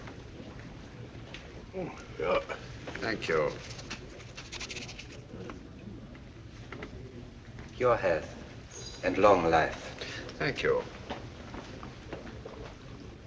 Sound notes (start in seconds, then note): none